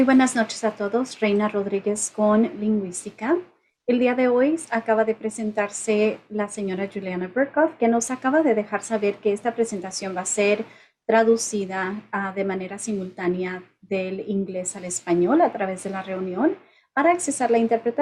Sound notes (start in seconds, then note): 2.7 spanish